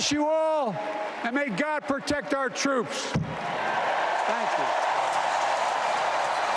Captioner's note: applause